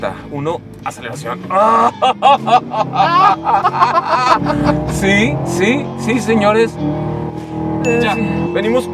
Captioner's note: laughing in excitement